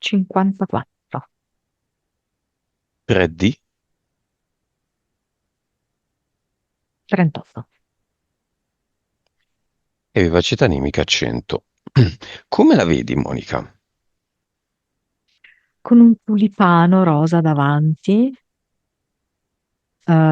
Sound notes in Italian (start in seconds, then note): 11.8 schiarire la voce